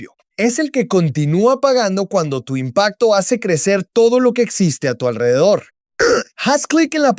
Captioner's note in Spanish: carraspeo